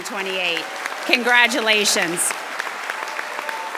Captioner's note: group clapping